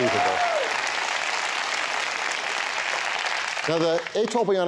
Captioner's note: applause